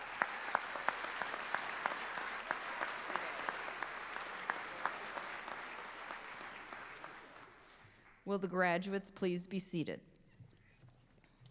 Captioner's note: applause